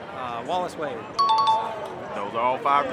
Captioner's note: chime dings